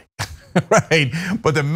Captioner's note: laugh